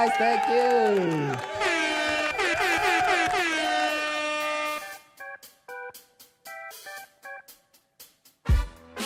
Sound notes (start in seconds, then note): 1.4 air horn